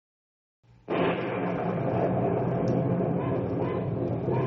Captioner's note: thunder